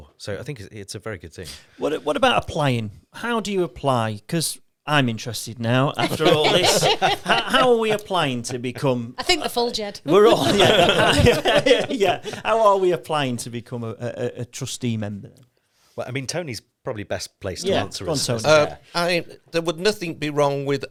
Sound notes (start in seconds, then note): 6.0 both laughing; 10.0 all laughing